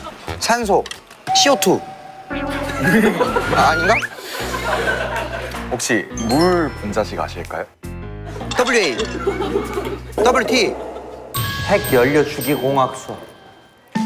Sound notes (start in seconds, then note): 2.7 laughter; 8.9 laughter